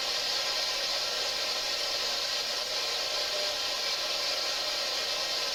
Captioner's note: white noise buzzes